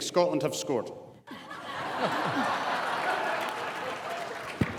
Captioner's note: audience laughs